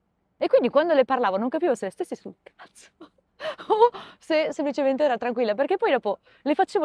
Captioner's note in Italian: risate